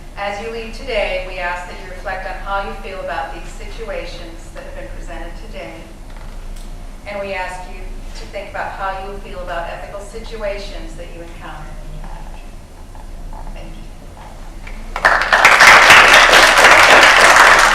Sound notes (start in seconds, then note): 14.7 applause